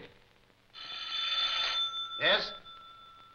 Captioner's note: phone ringing